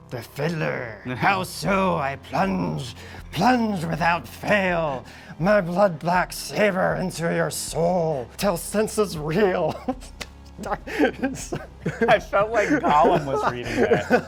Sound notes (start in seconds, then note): 10.5 chuckling